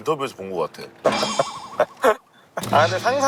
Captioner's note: just Laughing